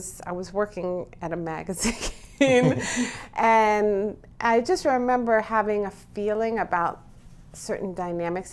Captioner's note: laughs